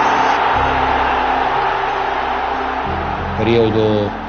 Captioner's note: crowd roaring